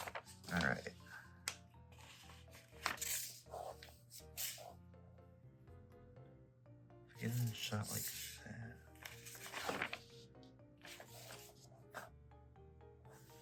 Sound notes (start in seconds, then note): none